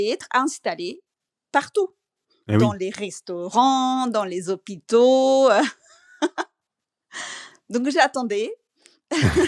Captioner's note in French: rires